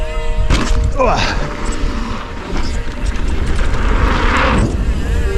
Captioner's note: biker grunting